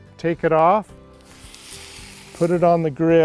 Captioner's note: sizzling sounds